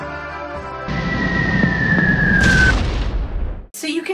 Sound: firework whistles and explosions

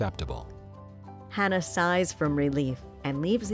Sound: voiceover

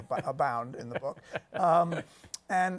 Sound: laughs

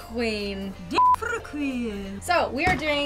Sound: beep

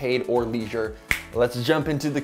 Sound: snaps

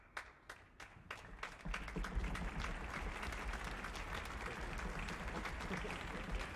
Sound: applause

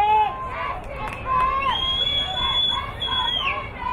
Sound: crowd cheering

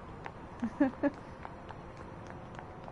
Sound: laughs

